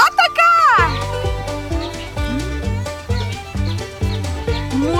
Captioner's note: birds